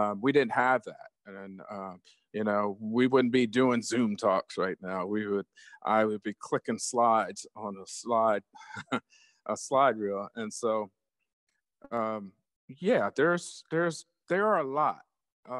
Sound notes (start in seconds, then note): 8.6 chuckles